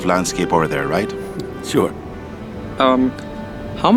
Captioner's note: laughs